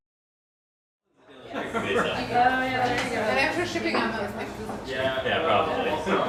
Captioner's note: tasters chatting and laughing